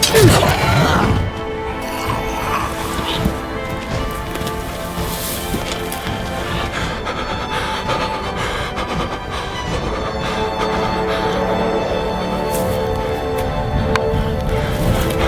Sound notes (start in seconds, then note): 0.3 grunting; 2.1 groaning softly; 6.9 rapid breathing